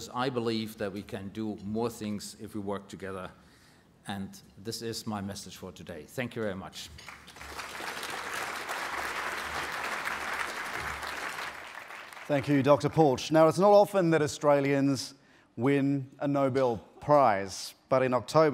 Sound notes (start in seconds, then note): 7.0 applause